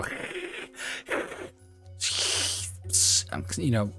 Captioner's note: poorly done snake hisses